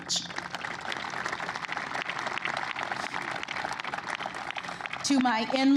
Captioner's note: applause